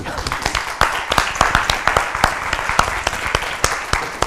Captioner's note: applause